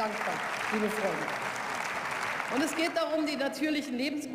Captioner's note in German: Beifall